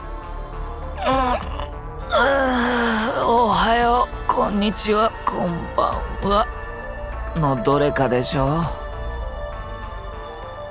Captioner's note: yawns